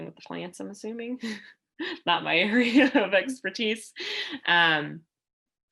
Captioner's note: laughter